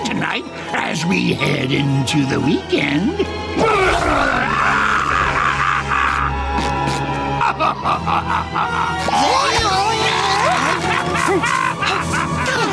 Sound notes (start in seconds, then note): 3.3 yelling; 7.1 laughing; 8.8 grunting; 9.9 laughing